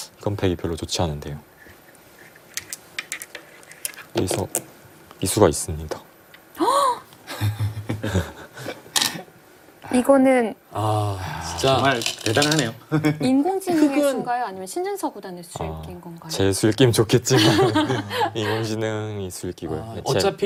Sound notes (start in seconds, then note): 6.6 gasp